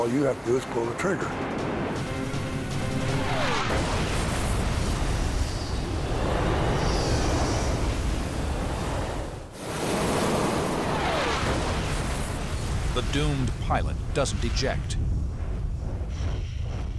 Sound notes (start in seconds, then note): 1.6 explosion; 11.6 explosion